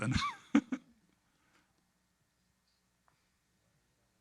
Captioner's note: laughing